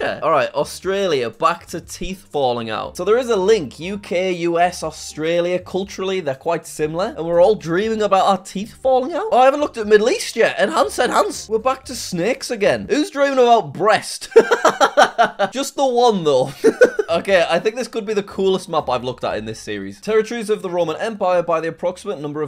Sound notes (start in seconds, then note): 14.3 laughs